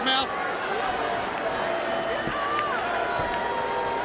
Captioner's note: crowd chattering